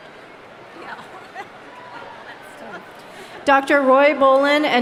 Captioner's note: laughs